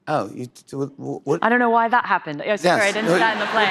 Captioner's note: normal voice